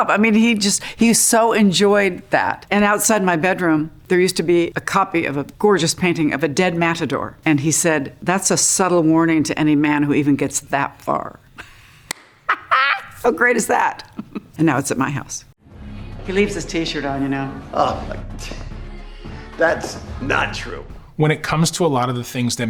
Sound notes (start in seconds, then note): 12.4 person laughing